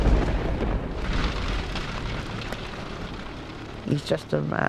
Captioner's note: heavy rainfall